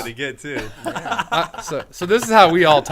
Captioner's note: men laughing